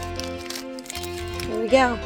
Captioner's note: unwrapping sounds - background music continues